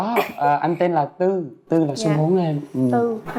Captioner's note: in Vietnamese